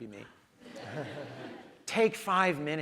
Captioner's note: audience laughs